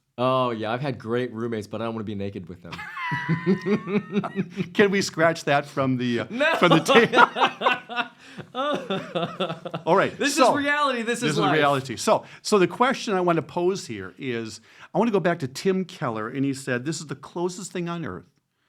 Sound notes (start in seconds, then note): 2.7 laughs; 6.2 both laugh